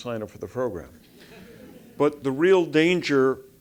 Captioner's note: laugh